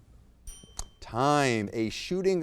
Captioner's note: bell dings